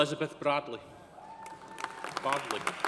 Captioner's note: audience cheering; audience applauding